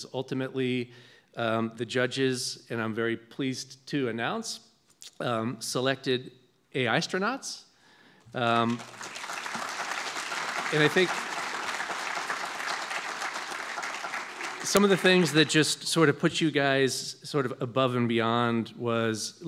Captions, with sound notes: Ultimately, the judges, and I'm very pleased to announce, selected AI-stronauts. (audience clapping) And I think some of the things that just sort of put you guys sort of above and beyond was,